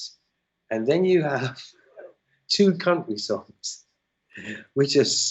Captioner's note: laughter